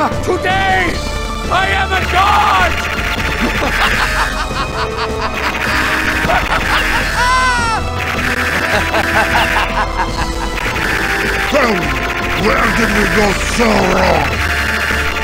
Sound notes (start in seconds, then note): 4.7 unacceptably villainous laughter